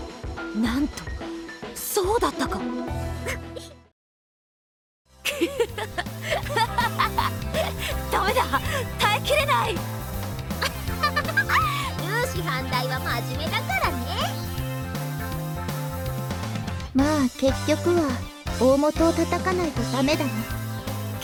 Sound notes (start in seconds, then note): 5.3 snicker